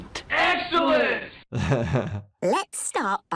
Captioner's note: doctor chuckles